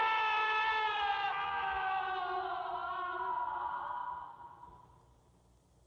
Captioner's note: grunts, Screaming; screaming, Echoing